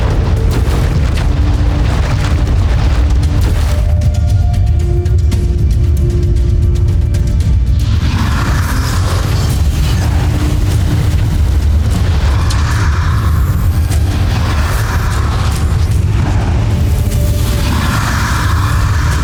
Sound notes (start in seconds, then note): 7.4 evil energy whooshing; 7.4 music swells